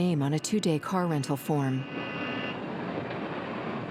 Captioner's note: street din